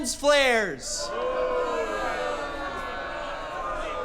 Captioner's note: crowd booing